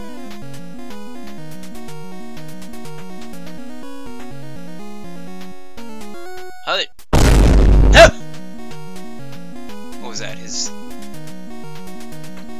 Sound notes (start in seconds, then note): 7.0 boo